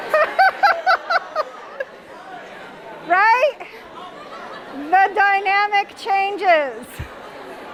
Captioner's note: laughs